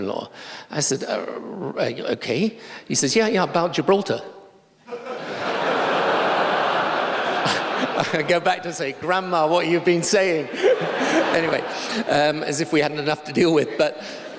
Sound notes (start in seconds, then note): 4.8 laughter